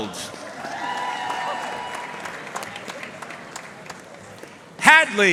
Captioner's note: audience cheering and applauding